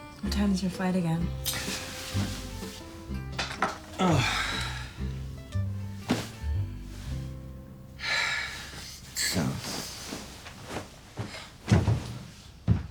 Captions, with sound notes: What time is your flight again? [sighing deeply] [exhaling deeply] Soon.